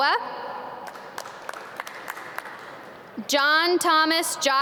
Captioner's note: audience clap